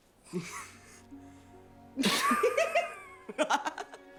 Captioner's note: both laughing